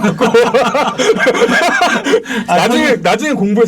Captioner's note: laughing